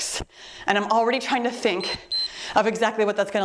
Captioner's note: timer beeps